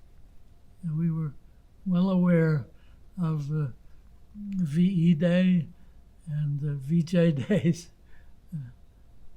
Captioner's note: laughing